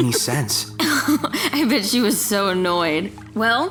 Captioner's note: chuckling